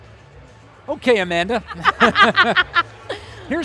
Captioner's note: laughing